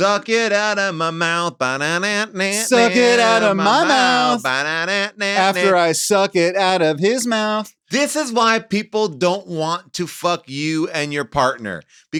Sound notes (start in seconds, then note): 2.4 hums